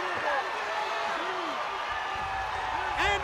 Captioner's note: crowd cheering